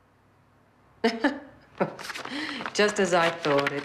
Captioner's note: chuckling